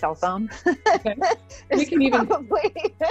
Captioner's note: laughs